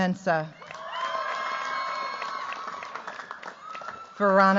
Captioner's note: cheers, applause